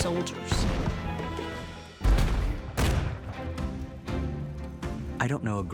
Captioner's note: cannons and guns firing